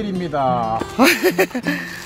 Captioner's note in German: Gelächter